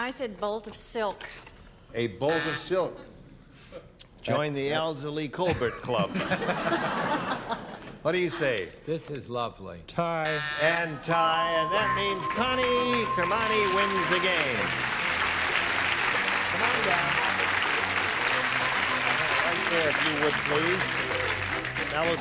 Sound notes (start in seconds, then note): 5.4 laughter; 15.4 applause